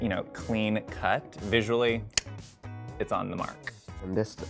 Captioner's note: clicks tongue